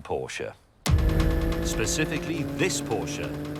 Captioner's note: engine roaring